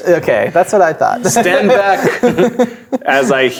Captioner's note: laughing